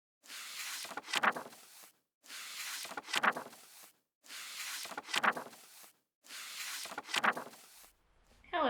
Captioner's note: pages of a book turning